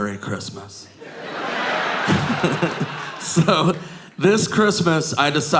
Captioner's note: audience laughing